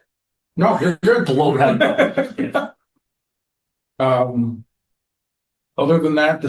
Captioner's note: laughter